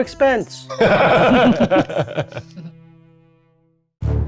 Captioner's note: group laughing